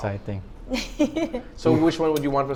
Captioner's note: giggles